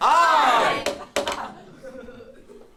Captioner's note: gavel